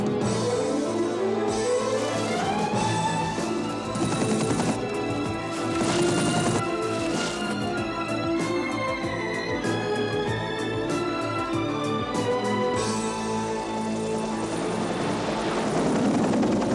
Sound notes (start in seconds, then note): 3.2 helicopter whirring; 3.2 intense orchestral music